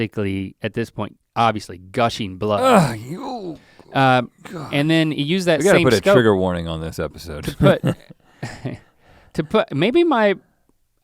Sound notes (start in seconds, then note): 2.6 winces; 7.5 chuckles